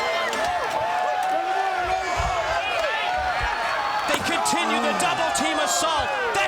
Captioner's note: crowd cheering